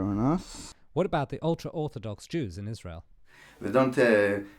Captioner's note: voiceover